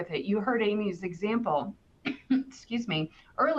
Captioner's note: clears throat